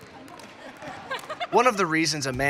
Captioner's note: laughs